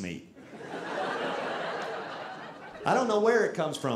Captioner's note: audience laughing